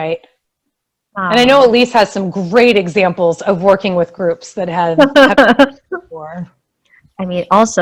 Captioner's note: internet lag